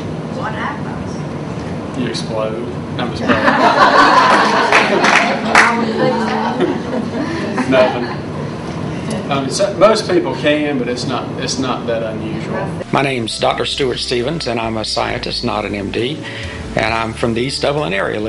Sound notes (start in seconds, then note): 3.2 audience laughs; 3.3 laughing